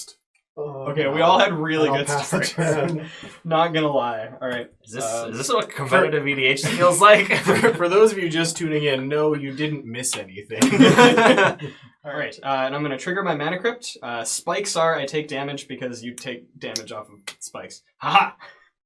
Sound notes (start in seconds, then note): 10.6 all laugh